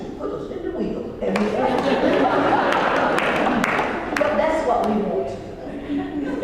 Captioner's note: laugh; laugh